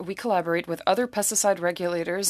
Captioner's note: speaking french